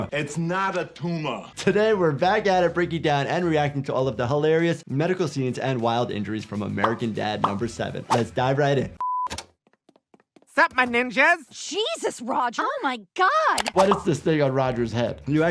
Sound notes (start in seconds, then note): 9.0 color bars beeping